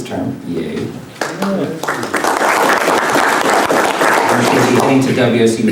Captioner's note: applause